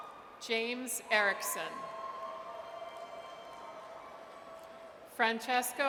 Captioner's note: audience cheers